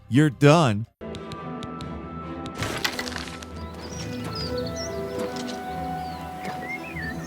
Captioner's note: somber music; birds chirping